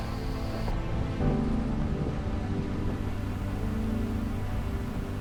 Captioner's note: truck engine humming; gentle music; tires treading; gentle music continues